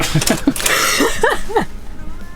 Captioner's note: laughing